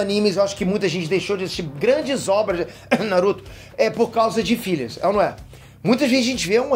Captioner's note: coughs